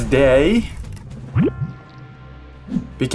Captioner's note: sfx: blob transforms